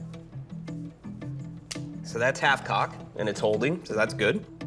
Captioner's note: click